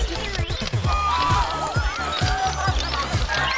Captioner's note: crowd cheering